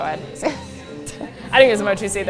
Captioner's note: laughs